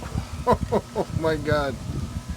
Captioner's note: laughing